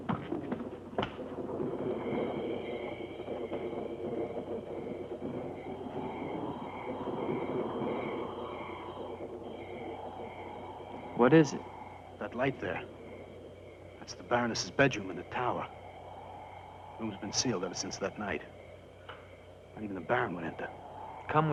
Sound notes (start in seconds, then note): 0.3 insects chirping; 0.3 thunder rumbling; 5.7 wind howling